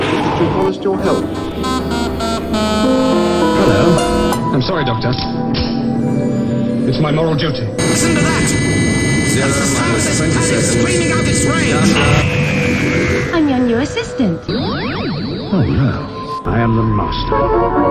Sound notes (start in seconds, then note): 14.8 sound of the Keller machine attacking